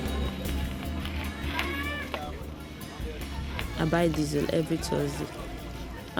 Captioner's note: chattering in foreign language